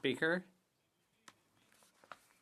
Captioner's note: speaking French